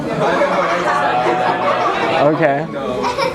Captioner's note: laughter